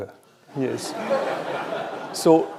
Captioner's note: laughter